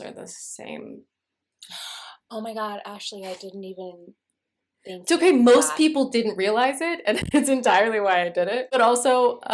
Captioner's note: gasping